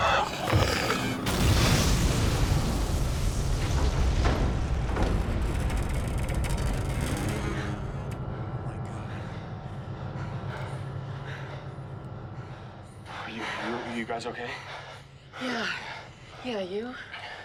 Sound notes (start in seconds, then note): 0.0 creature growls; 0.5 explosion blasting; 10.4 all panting